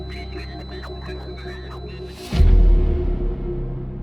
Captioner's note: radio chattering; ominous music continues